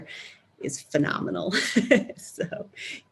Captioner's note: laughs